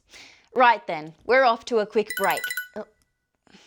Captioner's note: phone chimes